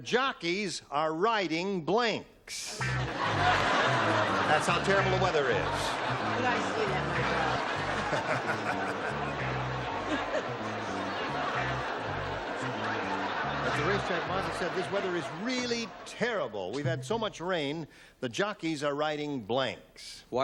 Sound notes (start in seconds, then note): 7.7 laughter; 8.7 upbeat music